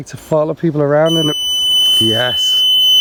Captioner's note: beeping